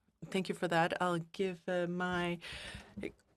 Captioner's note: speaking French